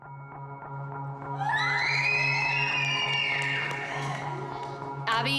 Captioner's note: screaming